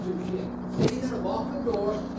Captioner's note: murmuring